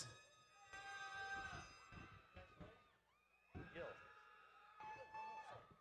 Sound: audience cheering

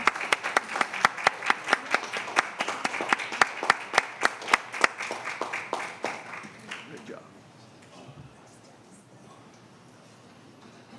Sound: applause

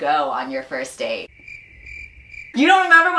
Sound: crickets

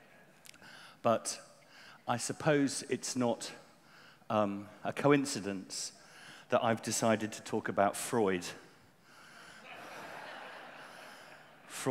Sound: laughter

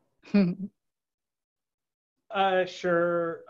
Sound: laughs

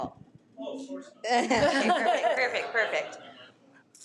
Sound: laughs

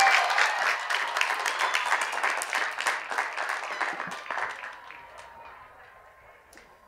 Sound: cheers and applause

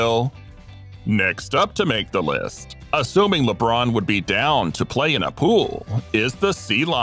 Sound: laugh

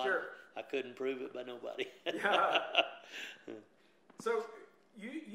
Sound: laughs

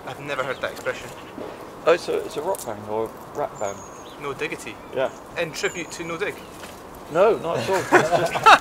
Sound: laughs

